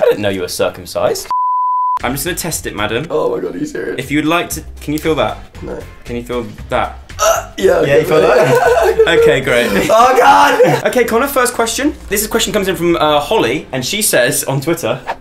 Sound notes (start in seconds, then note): 1.3 beep; 7.5 laughing